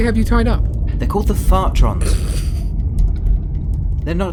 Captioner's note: davenport snorts